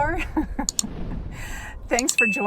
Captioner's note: laughs